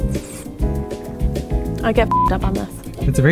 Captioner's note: beeps